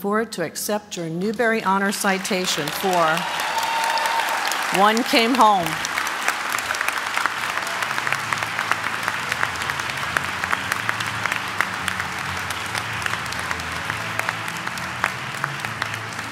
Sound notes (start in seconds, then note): 9.0 applause